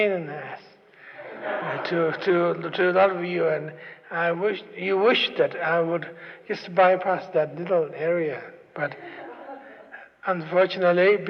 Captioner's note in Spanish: Risas